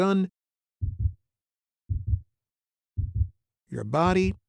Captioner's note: heartbeat thudding